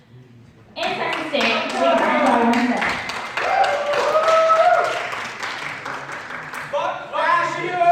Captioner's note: crowd cheering